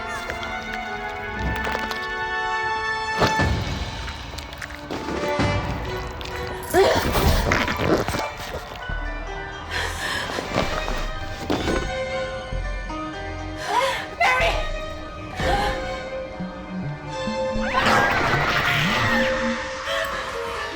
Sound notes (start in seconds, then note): 0.2 suspenseful music; 7.5 puppet snarling; 17.7 puppets screeching